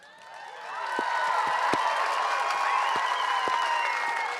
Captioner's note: cheering, applause